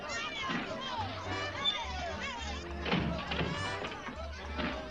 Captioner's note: chatter